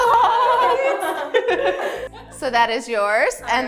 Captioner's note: laughter